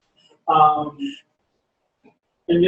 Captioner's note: pause